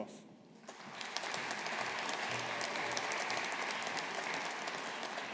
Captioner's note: audience applauding